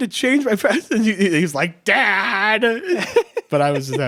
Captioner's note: laughing